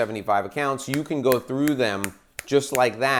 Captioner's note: fingers snapping